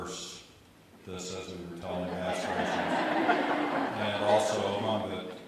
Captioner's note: audience laughter overlaps